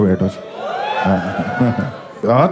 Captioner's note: crowd applauding